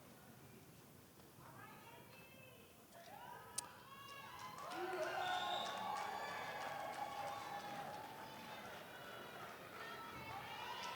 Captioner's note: cheer and Applause